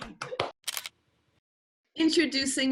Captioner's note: camera clicking